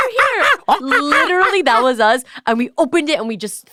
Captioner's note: monkey noises